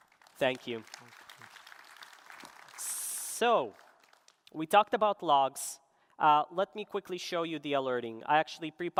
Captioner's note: applause